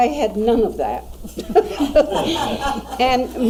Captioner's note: laughing